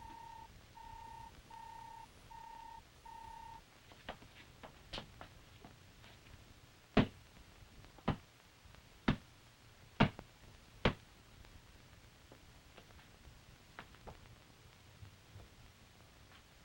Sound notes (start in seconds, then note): 7.0 blows landing